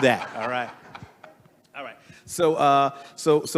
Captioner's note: everyone laughing